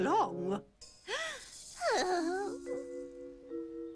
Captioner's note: sighing